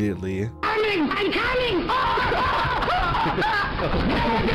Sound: screams

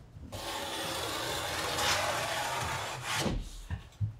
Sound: blade cutting

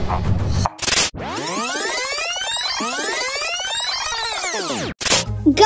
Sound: sound of reverse back tape

